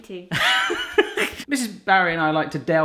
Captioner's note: laughing